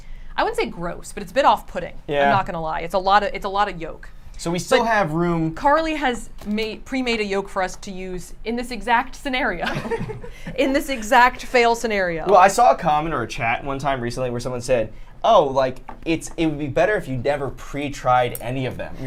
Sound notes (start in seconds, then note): 9.6 laughs